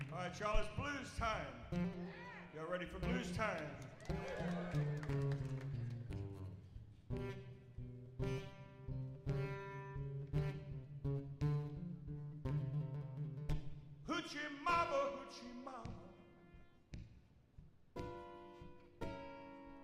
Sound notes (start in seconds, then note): 3.8 audience whoops; 7.3 bluesy guitar music